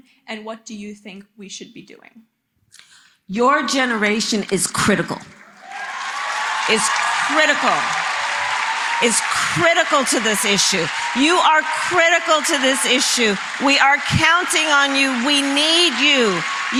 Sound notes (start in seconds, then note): 11.2 applause